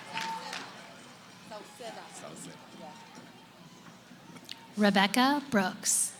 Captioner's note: cheering; background conversations